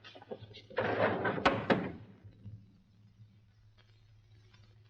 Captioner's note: doors slide shut